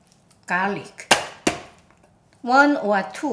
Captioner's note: knife tapping